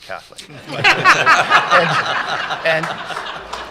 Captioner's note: laughter